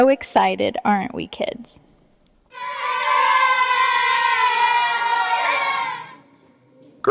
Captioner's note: children cheering